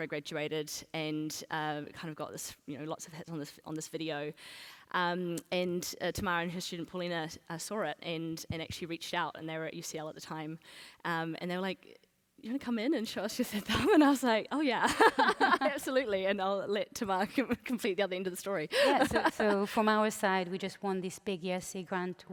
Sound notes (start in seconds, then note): 14.9 laughs